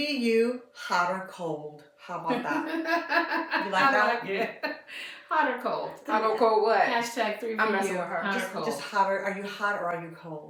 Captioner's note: laughter